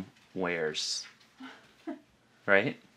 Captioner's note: laughs